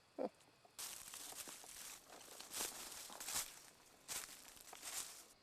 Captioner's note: leaves crunching